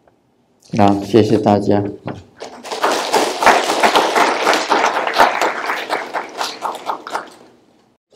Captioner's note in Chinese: 眾鼓掌